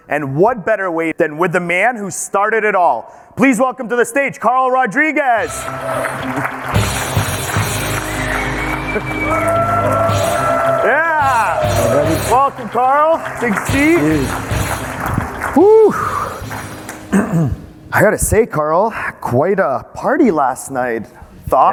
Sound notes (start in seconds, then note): 5.6 audience cheering; 5.6 dramatic music